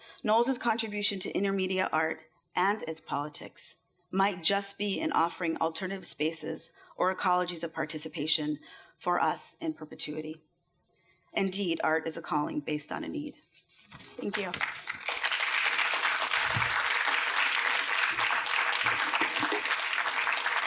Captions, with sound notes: Knowles's contribution to intermedia art and its politics might just be in offering alternative spaces or ecologies of participation for us in perpetuity. Indeed, art is a calling based on a need. Thank you. [APPLAUSE]